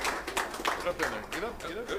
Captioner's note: applause